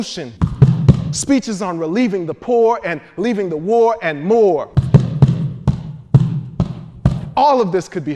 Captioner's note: feet stomping; feet stomping